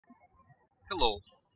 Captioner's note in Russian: птички щебечут